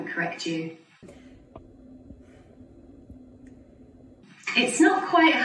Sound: slightly distorted sound, sigh

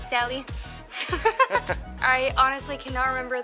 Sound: both laugh

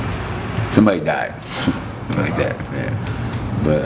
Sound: chuckling

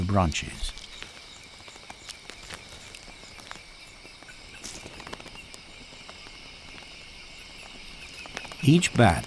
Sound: bat screeches

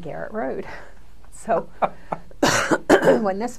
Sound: laughter

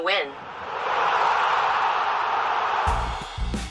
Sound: cheering

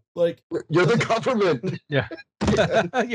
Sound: laughter

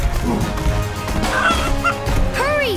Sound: clucking

